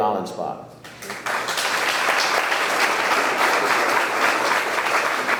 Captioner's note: audience clapping